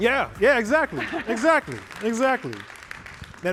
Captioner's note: applause